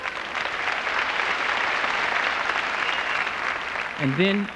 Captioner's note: applause